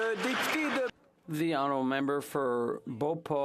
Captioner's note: some Applause